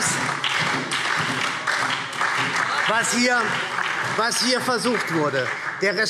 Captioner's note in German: Beifall SPD und Freie Demokraten